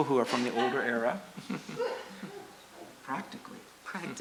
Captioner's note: laughter